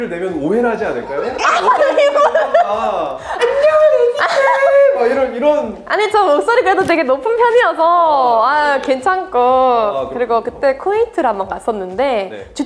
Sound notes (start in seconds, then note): 3.6 creepy voice